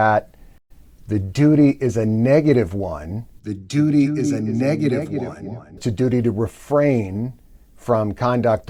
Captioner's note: echoey voice